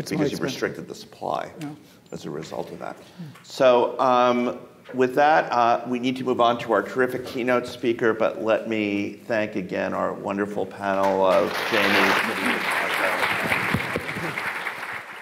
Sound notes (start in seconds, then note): 11.0 audience clapping; 11.6 faintly speaking